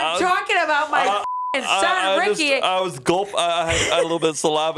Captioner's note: beep; chuckling